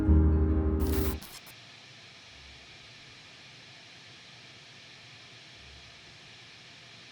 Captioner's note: static humming; static crackles